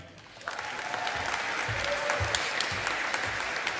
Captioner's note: audience applauding